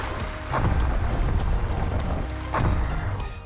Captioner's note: distant explosions